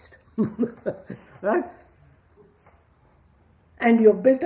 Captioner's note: laughs